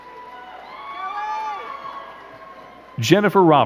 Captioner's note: crowd cheering and clapping